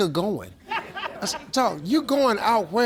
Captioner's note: audience laughs